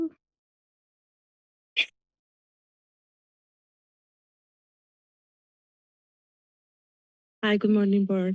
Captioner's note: silence